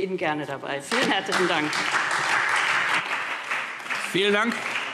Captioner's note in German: Beifall SPD